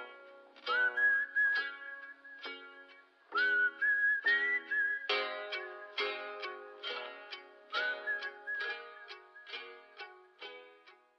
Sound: whistling

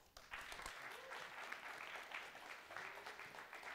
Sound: applause

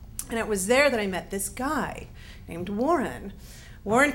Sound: none

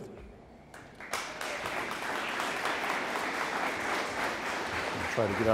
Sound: audience applauding

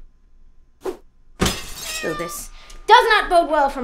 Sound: SFX: breaking glass, cat screech

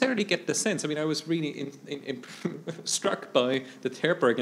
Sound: faintly speaking

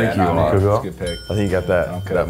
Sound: bell dinging

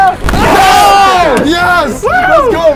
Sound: yelling and cheers

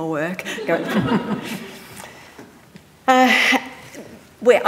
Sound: audience laughing

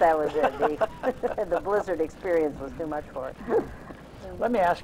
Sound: laughs

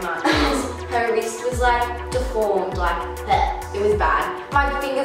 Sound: gags

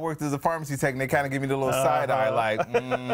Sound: laughter

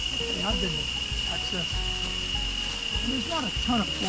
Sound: chattering indistinctly

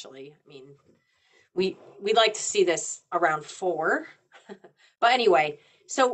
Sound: chuckles

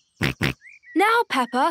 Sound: snorts

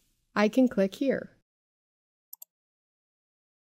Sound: pause

